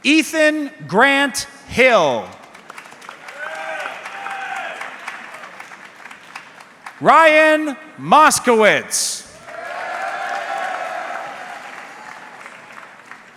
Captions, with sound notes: Ethan Grant Hill. (audience clapping) Ryan Moskowitz. (audience clapping)